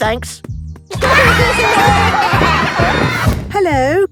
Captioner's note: laughter